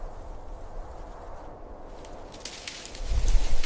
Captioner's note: wind blowing